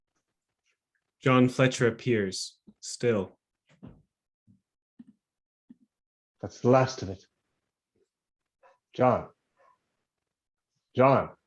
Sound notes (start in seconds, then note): 7.7 silence; 10.0 silence